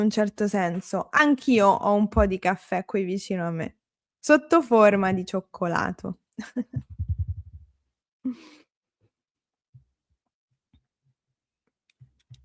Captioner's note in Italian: risate